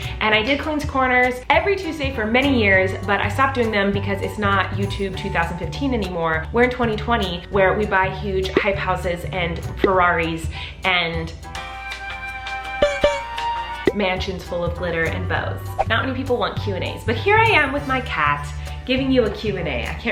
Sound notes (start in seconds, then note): 12.8 boinking